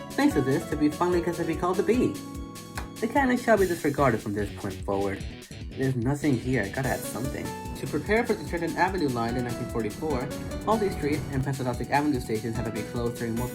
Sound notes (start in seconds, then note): 2.7 clap